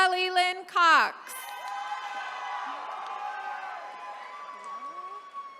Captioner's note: attendees cheering